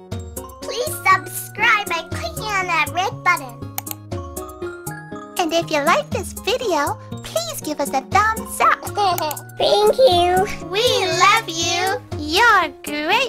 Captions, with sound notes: Please subscribe by clicking on that red button. [Click] And if you like this video, please give us a thumbs up. [Giggle] [Click] Thank you. We love you. You're great!